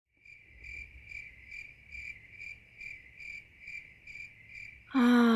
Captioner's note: crickets Chirping Outside